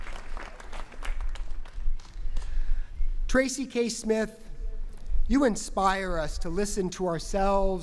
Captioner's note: applause